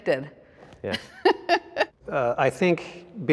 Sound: laughs

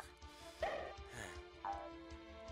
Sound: sigh

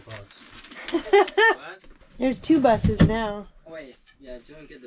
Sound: laughs

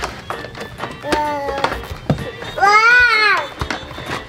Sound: baby babbles

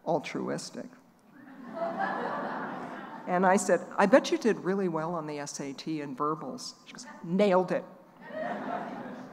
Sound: laughing

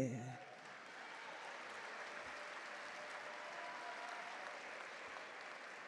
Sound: audience cheer and clap

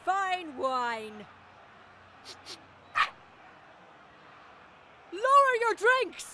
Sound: fox yips

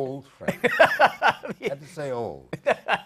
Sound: laughter

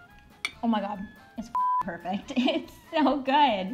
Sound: beep

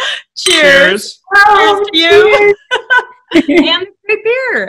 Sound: laughing

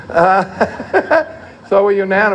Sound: laughter

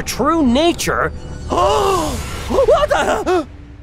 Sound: gasping

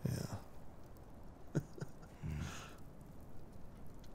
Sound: chuckles

